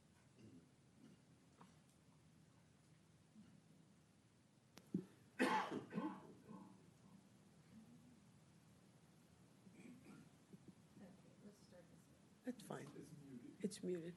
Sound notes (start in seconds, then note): 1.1 coughing